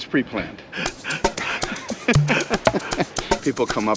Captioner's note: laughs